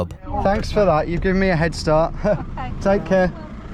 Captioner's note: laughs